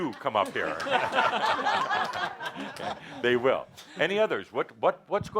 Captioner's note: more laughter